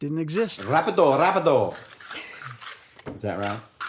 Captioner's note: speaks in foreign language; laughs